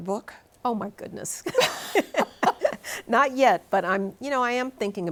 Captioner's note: both laughing